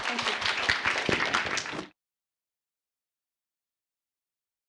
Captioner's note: applause